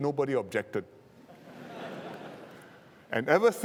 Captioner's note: laughter